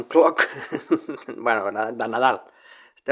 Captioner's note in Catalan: Riu